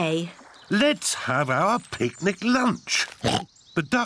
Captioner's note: oinks